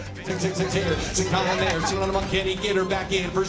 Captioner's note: rapid auctioneering